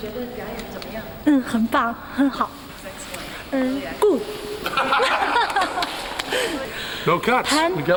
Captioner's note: non-english speech